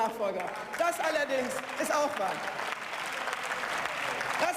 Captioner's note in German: Beifall